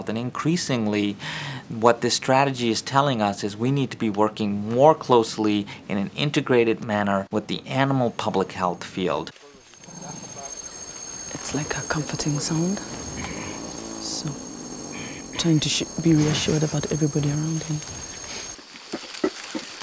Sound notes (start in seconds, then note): 12.9 gorilla purring